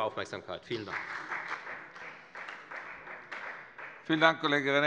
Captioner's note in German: Beifall bei der FDP und bei Abgeordneten der SPD